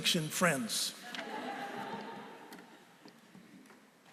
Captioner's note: laughter